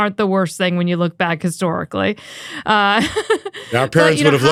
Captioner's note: laughs